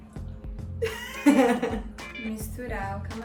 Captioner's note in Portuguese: risada